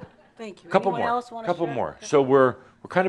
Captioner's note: some chuckles